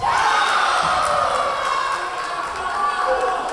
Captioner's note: cheering; yelling; clapping; yelling